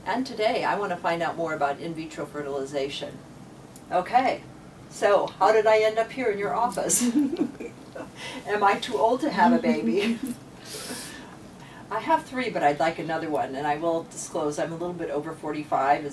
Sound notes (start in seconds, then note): 9.6 laughs